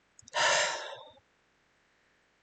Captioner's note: exhale